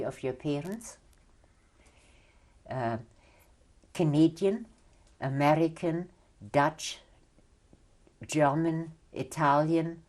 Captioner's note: pauses for 3 seconds